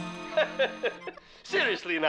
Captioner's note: chuckles